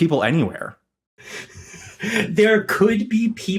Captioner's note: wheezes